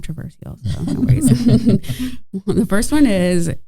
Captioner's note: everyone chuckling